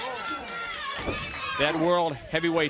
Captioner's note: crowd chatter